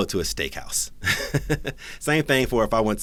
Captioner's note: laughs